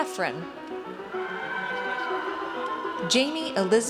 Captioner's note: audience cheers